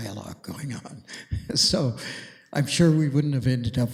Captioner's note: chuckles